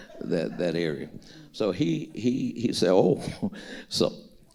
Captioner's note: chuckles